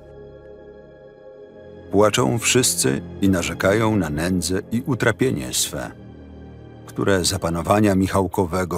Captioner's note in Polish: Lektor